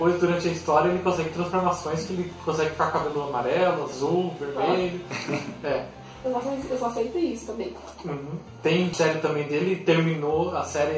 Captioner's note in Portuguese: risos